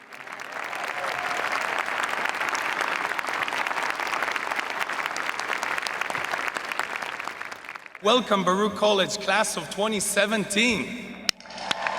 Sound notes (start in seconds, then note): 0.0 audience applauding